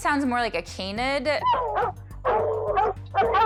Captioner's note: dogs barking, howling